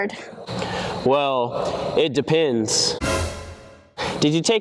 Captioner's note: dramatic Noise